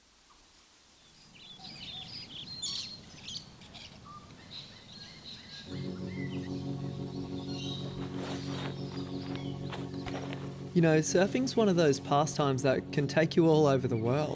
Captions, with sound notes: [BIRDS CHIRPING] You know, surfing is one of those pastimes that can take you all over the world,